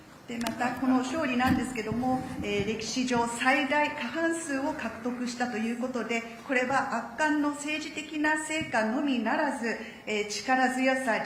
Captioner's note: speaking Japanese